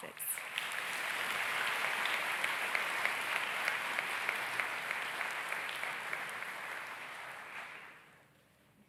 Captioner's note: audience claps